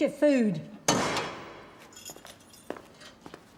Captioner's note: footsteps recede